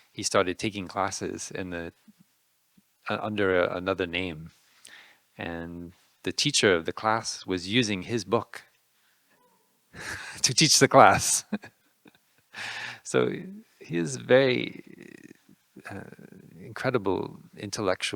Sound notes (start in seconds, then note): 9.7 audience member laughing; 11.1 laughing